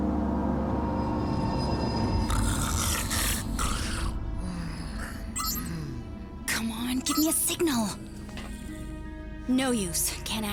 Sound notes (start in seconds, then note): 2.2 snoring; 6.3 digital beeping